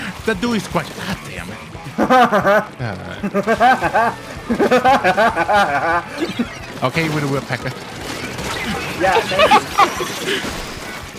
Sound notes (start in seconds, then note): 2.2 laughing rhythmically; 4.1 continue laughing rhythmically; 8.5 laughing